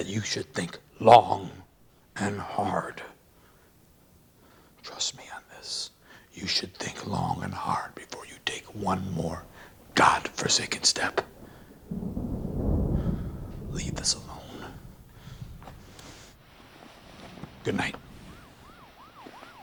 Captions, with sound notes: trust me on this. You should think long and hard before you take one more God forsaken step. Leave this alone. Goodnight. (police siren)